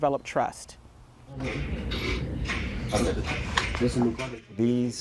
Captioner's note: chatter